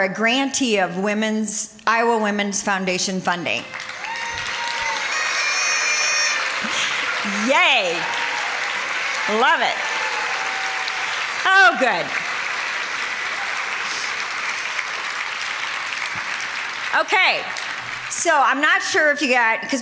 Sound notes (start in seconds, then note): 3.7 applause